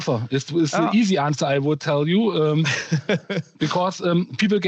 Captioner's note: laughter